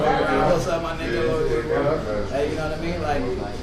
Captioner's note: imitates chatter